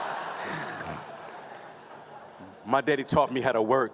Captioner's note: laughing